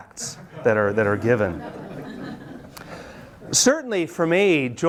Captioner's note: students laugh